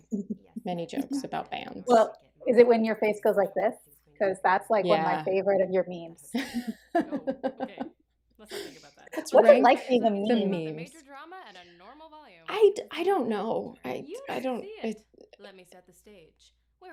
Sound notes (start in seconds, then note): 6.3 laughter